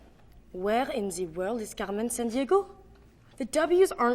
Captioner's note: with French accent